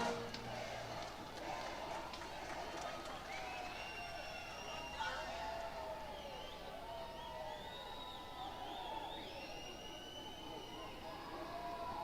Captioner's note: cheers